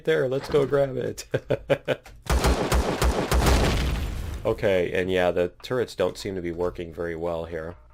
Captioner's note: laughs